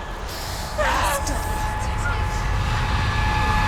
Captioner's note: panicked sobs; desperate scream